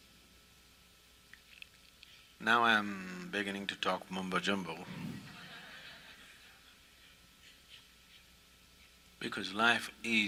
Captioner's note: all laugh